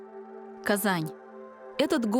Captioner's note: in Russian